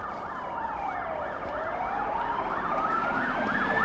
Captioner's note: sirens wailing